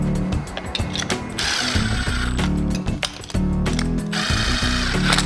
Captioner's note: drill drilling